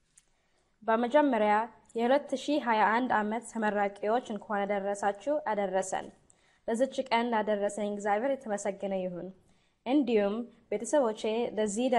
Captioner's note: non english